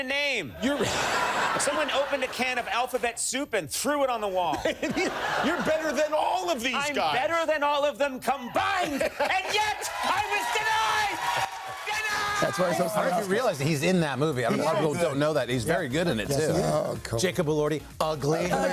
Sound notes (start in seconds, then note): 4.5 laughter